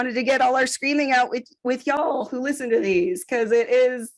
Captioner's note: none